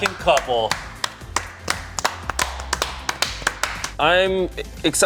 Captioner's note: everyone applauding; bright rhythmic music